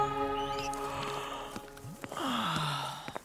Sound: birds chirping; yawning

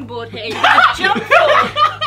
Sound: Ethan laughing

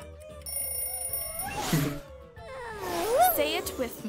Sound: alarm blaring; bell rings

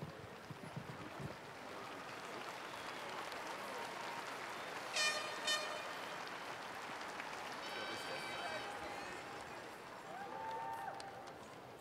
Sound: applause

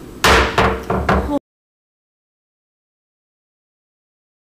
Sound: gavel banging

